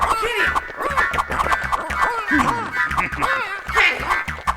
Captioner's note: צווחות